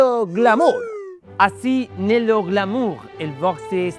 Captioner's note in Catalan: amb accent francés